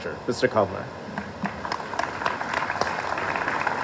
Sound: applause

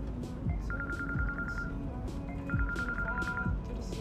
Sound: phone ringing

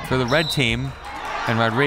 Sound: whistle

